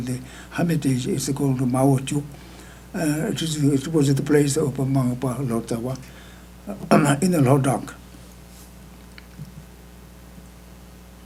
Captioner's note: speaking tibetan